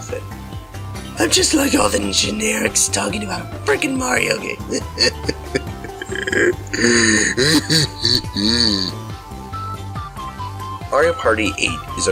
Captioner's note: hysterical Crying